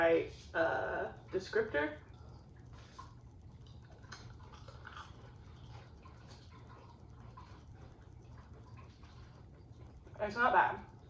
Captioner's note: munching sounds